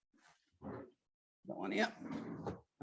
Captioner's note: drawer whooshing